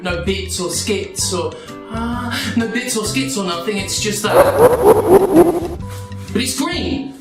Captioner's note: Mario villain laughing sound